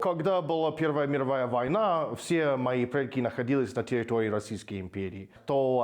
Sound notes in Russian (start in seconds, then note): 0.1 говорит с акцентом